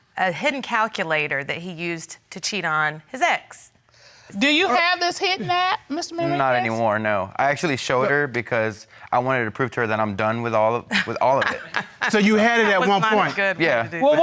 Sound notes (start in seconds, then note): 9.1 laughs